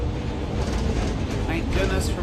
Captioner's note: none